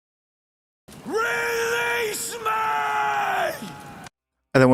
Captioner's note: screaming